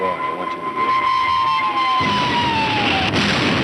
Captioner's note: explosions